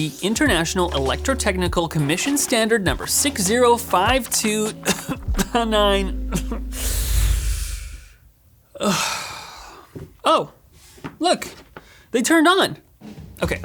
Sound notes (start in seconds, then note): 3.3 coughs; 7.1 sighs